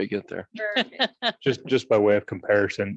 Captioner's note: laughs